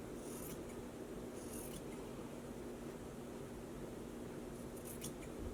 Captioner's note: scissors clipping